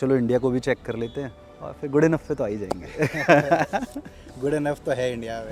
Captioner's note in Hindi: हंसी